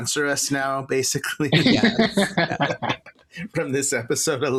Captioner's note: laughter